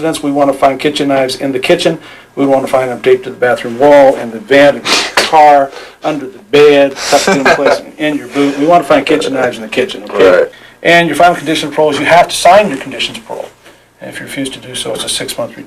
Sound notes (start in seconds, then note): 7.1 laughter